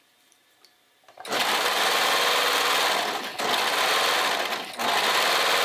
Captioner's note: sewing machine whirring